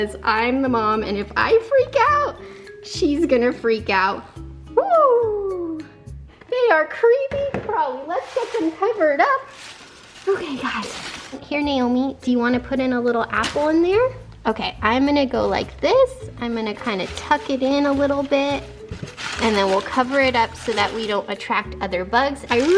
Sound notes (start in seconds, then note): 9.6 paper rustling